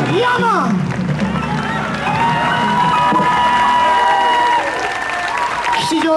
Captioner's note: audience applauds on